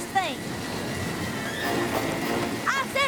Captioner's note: wind whistling